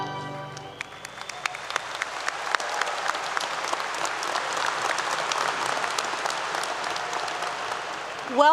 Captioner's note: applause